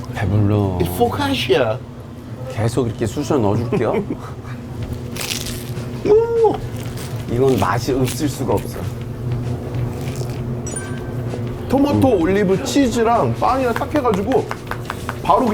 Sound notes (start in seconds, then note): 4.9 Crunch